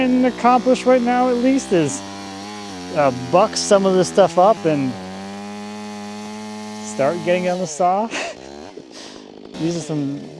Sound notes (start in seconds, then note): 8.0 chuckles